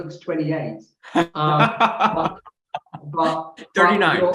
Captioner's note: chuckles